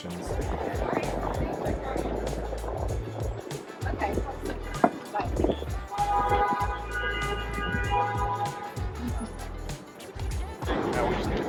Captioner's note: traffic Noise